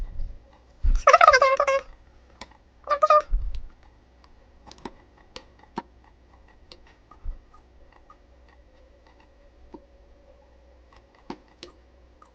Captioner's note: speaks chipmunk